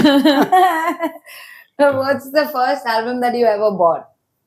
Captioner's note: laughs